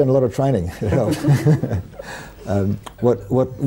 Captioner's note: laughter